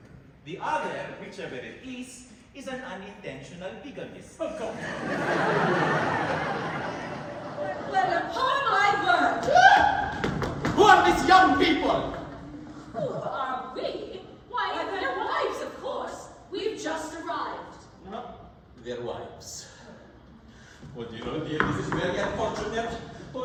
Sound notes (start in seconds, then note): 4.6 Laughter. MARCO & GIUSEPPE react in horror; 9.4 DON ALHAMBRA shrieks